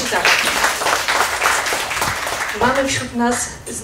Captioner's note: applause